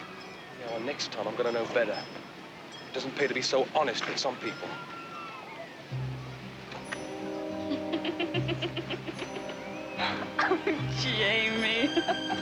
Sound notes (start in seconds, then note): 7.6 giggling